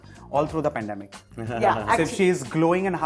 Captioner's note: giggles